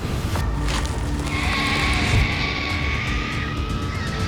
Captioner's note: birds screeching